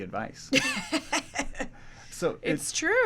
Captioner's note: laughs